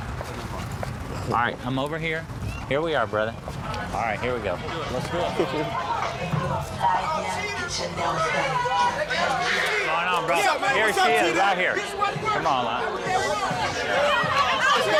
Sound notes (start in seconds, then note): 5.9 chatter; 12.1 shouting